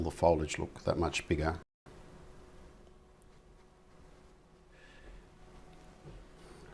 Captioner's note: silence